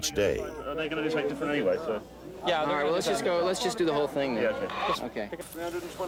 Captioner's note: man Chattering